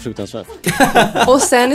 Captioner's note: laughs